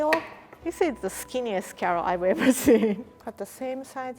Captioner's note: laughs